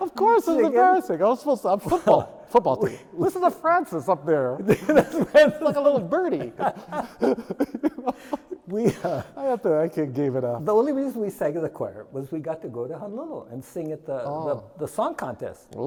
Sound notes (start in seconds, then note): 0.0 laughing; 7.0 laughing